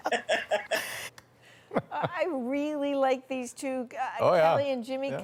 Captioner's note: laughter